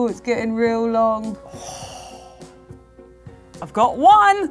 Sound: gasps

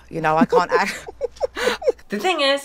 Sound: laughing

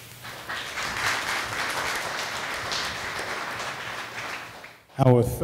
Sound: audience applause

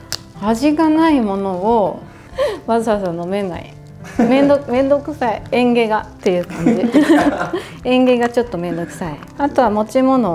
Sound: laughs

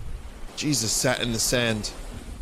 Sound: normal voice

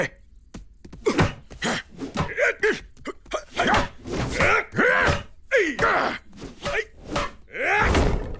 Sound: grunting

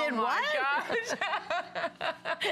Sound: laughter

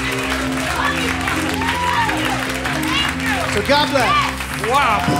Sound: applause

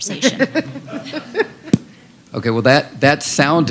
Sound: laughter

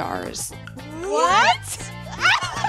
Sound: Ashley laughs

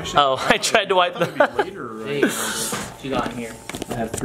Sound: laughing

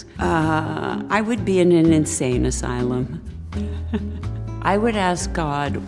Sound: chuckles

